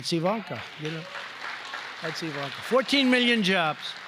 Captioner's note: applause